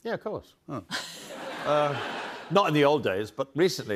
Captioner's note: laughter